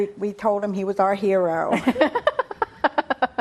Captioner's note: laughter